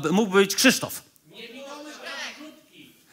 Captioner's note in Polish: okrzyki publiczności